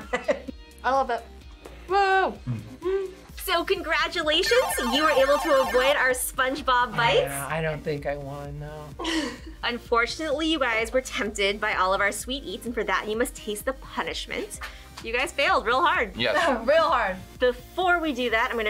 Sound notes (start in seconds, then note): 2.5 laughs; 9.0 chuckles